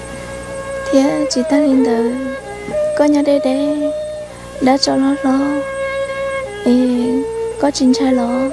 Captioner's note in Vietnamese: khóc